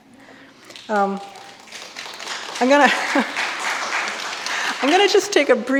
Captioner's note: audience applauding